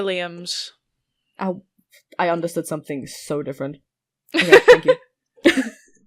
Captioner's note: Rover laughs